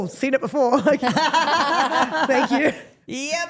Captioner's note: Steph laughs